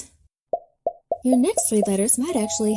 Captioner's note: letters popping and ringing